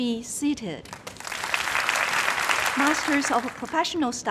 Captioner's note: crowd applauding